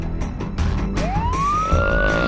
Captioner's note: siren; groaning